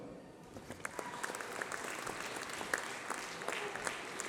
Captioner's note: applause